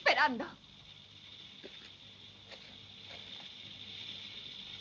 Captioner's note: sonajeros de serpientes